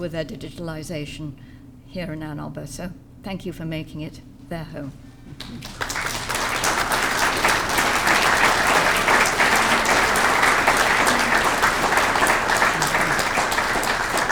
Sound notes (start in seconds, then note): 5.4 audience clapping